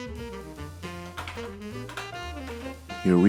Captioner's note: inserting dummy batteries